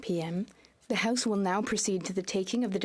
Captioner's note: speaking French